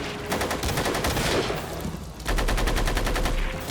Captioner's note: guns firing